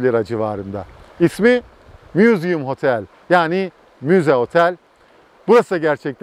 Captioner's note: in Turkish